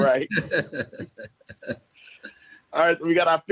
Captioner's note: laughter